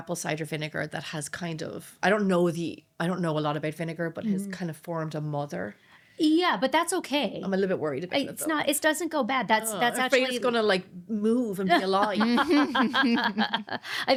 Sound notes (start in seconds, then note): 11.7 laughing